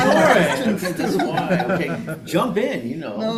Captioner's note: panel laughing